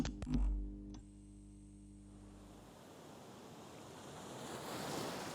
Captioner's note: soft waves in the distance